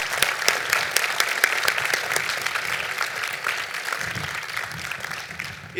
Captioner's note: applause